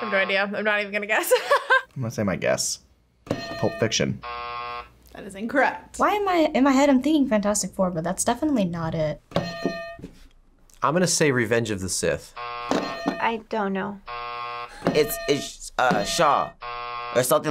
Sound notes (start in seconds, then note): 0.0 buzzer rings; 1.3 laughs; 3.3 buzzer rings; 3.3 bell rings; 9.4 bell rings; 12.2 buzzer rings; 12.7 bell rings; 16.3 buzzer rings